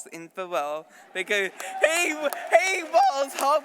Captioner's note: applause